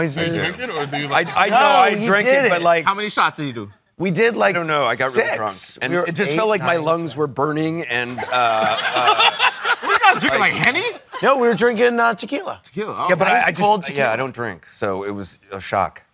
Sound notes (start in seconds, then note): 8.0 laughter